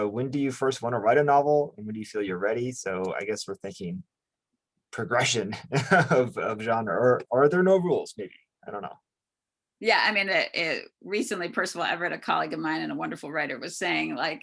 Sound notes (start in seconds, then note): 5.2 chuckles